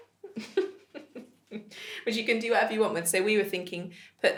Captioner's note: chuckles